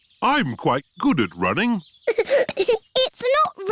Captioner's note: giggling